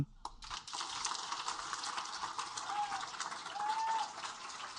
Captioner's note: audience applaud